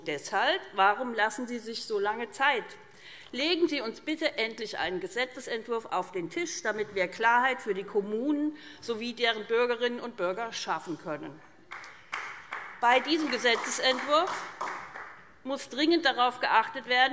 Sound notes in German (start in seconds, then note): 11.7 Beifall SPD